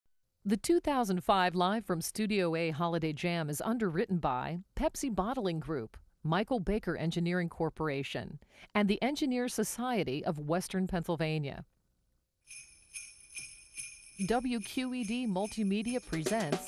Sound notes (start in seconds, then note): 12.5 bells jingling